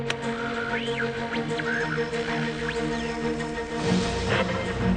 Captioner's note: radio whistling